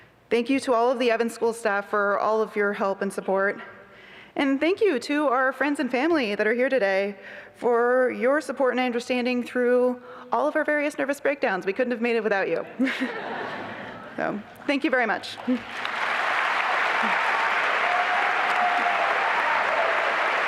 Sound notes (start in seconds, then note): 12.7 laughter; 15.4 applause and cheering